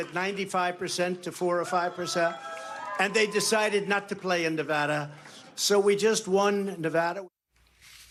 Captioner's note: applause